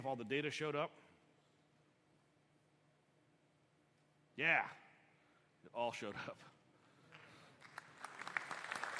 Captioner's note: applause